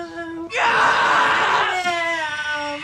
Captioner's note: Billy screams